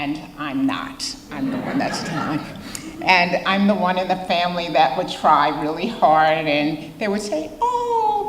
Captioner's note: audience laughter